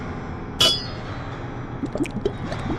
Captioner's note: clink